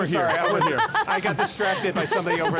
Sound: laughs

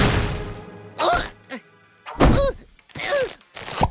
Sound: groaning

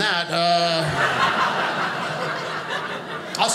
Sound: audience laughing

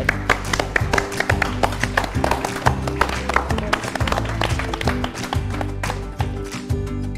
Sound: all clapping; upbeat music

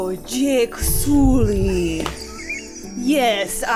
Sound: wheezing laughter

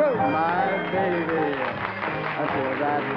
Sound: applause

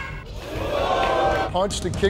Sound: audience whoops

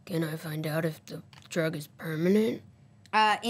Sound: none

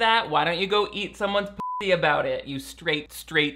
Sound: beep

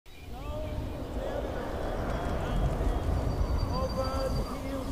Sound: bird chirps; wind whooshes

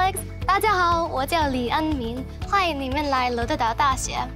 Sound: speaking in Mandarin

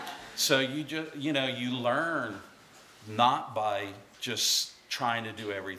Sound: laughter

